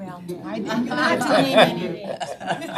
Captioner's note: all laughing